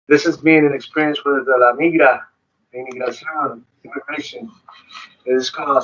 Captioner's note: speaks foreign language